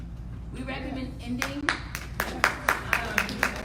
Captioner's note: audience applauding